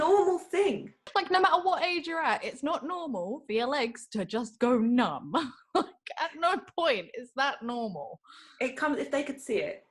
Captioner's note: chuckles